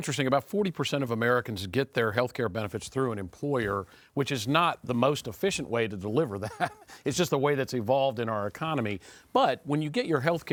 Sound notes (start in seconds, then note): 6.4 chuckles